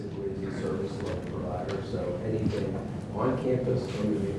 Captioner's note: speaking off mic